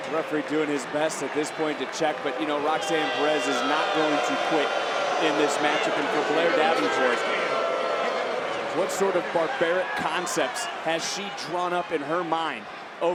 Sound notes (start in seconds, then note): 7.1 crowd booing